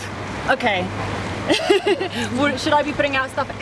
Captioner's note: laughs